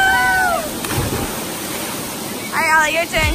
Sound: splashing

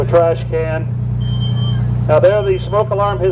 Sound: beeping

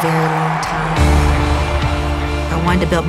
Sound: audience cheers

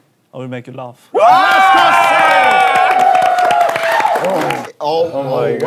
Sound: sound of clapping

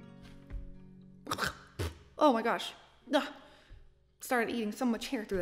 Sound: clears throat

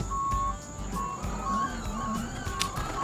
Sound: beeps; upbeat music

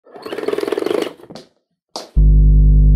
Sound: rotary winding; deep tone

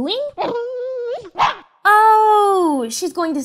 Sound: whimper; loud ruff

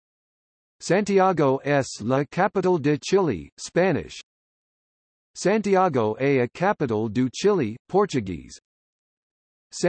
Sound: Spanish

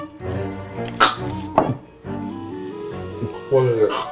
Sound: choking

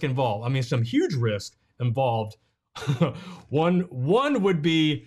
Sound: chuckles

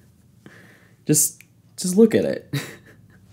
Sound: laughs

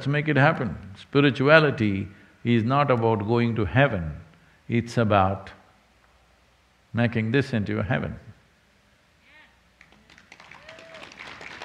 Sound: cheering/Applause

